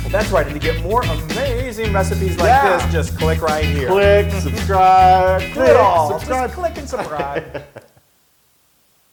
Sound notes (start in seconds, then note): 5.3 laugh